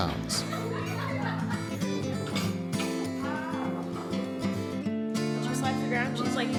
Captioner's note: girl laughing